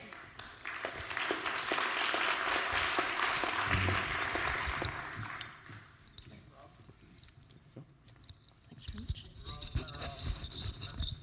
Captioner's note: applause